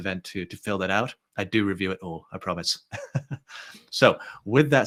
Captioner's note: chuckles